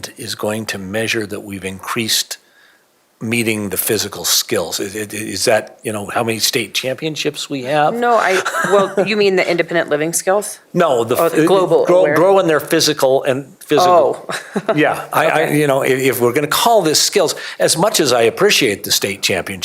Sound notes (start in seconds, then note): 9.8 laughter